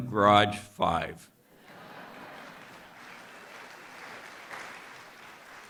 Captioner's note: applause and Laughter